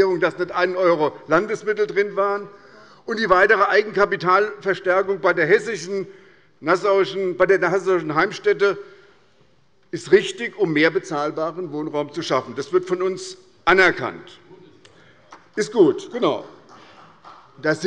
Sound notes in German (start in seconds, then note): 14.2 Beifall des Abg. - Zuruf